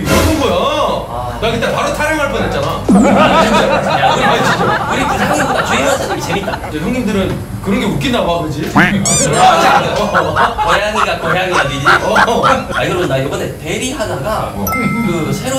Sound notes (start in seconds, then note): 3.0 laughter; 8.8 laughed too hard